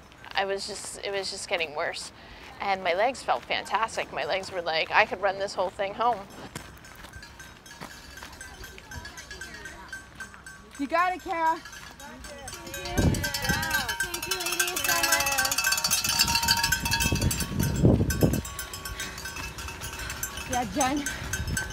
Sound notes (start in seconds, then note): 7.3 bells ringing; 12.2 bells ringing; 16.3 bells continue to ring